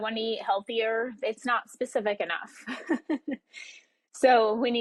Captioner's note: laughs